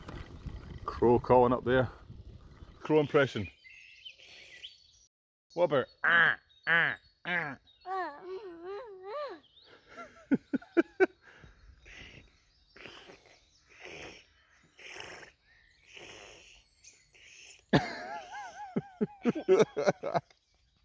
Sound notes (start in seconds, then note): 6.0 does crow imitation; 12.7 making wild noises